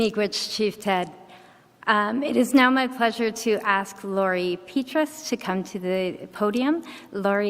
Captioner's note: speaks Idigenous language